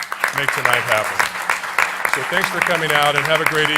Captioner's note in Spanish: Aplausos